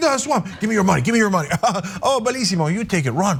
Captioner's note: laugh